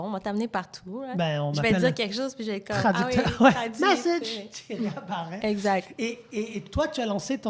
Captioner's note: laughs